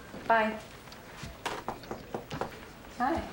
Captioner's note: door knocking